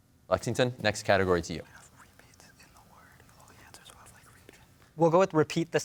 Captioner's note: team whispering